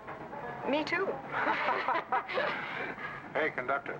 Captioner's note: group laughs